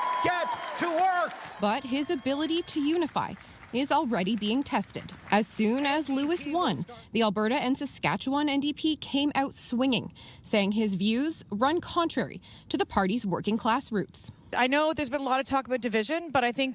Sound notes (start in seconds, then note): 2.4 applause